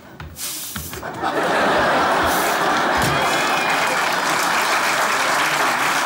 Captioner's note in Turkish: Kahkaha ve alkış sesleri